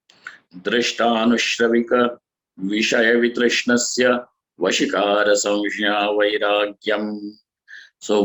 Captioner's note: sanskrit